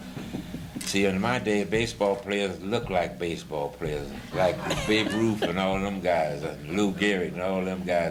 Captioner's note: laughter